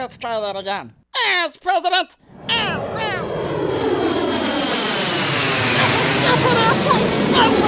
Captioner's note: jet engine roar